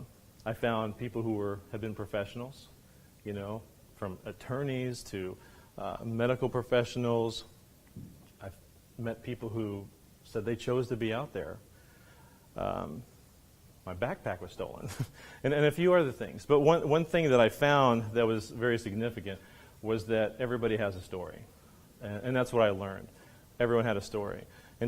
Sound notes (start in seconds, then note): 15.5 laughs